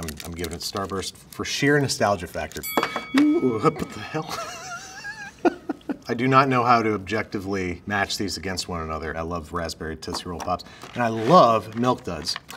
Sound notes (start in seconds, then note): 3.3 laughs